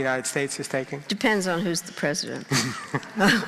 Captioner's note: laughing